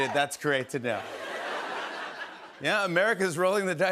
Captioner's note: laughter